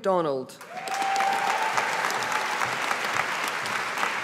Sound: audience applauding

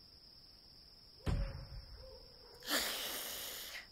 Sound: gun shot; dog hisses

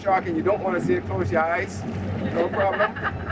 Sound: laughs

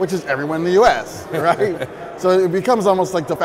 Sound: laughing

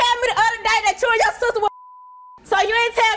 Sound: beep

